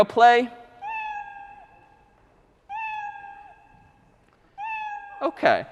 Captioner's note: three slower meows